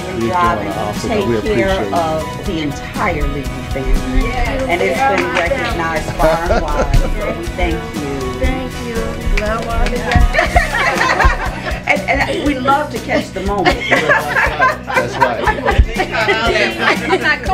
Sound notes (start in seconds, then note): 10.0 laughing